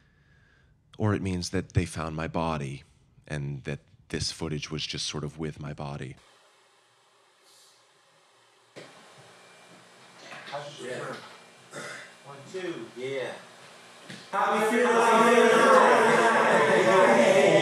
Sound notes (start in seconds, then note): 11.7 clearing throat